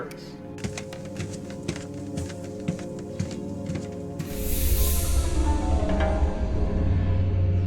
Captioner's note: gentle quiet music; thumping footsteps; energetic dramatic music